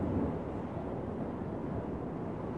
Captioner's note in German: Brausen des Windes